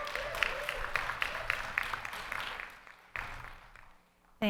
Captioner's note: audience applauding